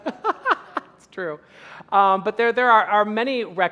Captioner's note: laughing